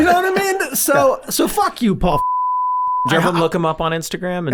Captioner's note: all laughing; beep